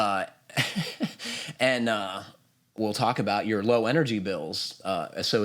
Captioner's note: laughs